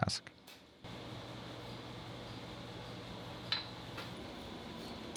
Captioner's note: machine whirling